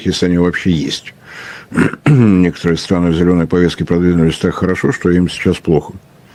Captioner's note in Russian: откашливается